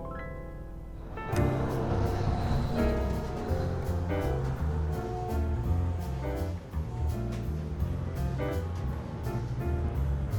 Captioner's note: car horns honking